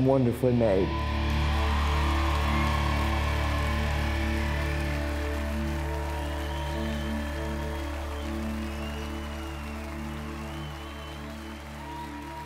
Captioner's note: crowd cheering